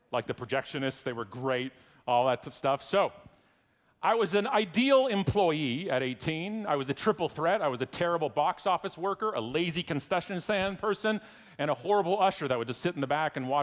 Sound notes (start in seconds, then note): none